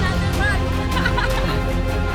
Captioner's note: laughing